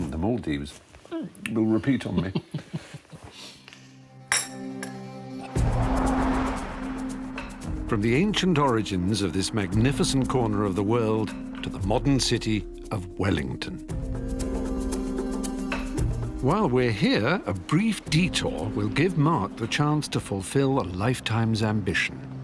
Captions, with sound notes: The Maldives will repeat on me. (chuckling) (suspenseful music) From the ancient origins of this magnificent corner of the world to the modern city of Wellington. While we're here, a brief detour will give Mark the chance to fulfill a lifetime's ambition.